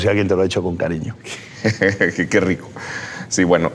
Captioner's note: Luis laughs